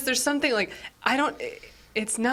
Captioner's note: none